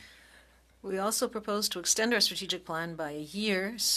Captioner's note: speaking French